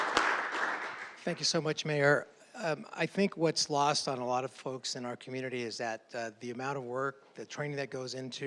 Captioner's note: applause